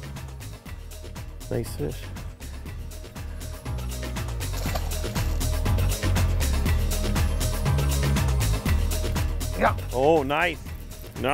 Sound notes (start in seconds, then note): 4.4 water splashing